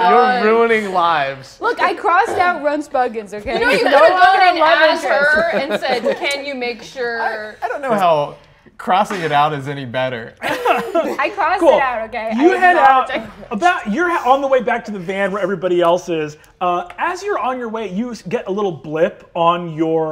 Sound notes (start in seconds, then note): 10.4 laughs